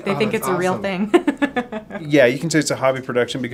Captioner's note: laughing